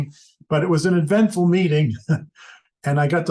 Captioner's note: chuckles